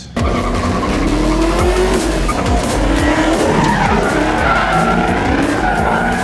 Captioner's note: car engine revving; tires screeching